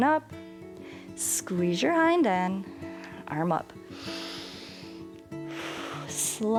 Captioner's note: inhales and exhales